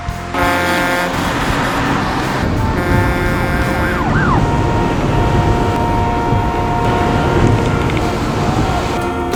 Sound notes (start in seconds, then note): 0.3 truck horn blows; 2.0 police siren blaring; 2.0 truck horn blows; 4.5 car horns honking